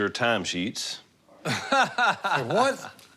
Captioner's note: laughs